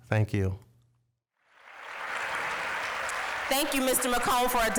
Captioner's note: applause